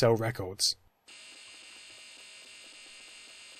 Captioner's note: buzzing